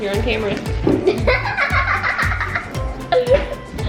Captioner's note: laughter